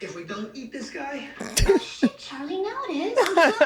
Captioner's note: Rob chuckles